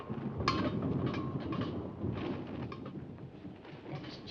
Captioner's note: clanking